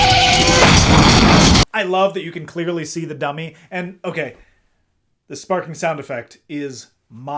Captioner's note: crash